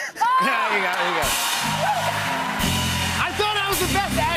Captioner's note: cheers and applause